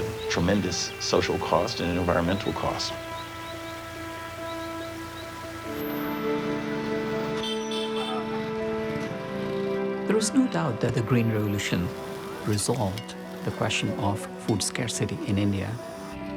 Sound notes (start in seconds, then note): 5.9 engine rumbling, horn honking